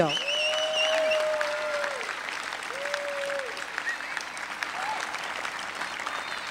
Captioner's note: applause